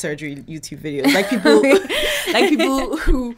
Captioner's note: both laugh